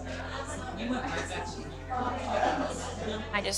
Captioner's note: crowd chattering